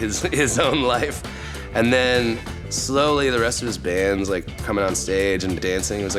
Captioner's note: laugh